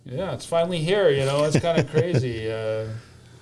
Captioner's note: laughter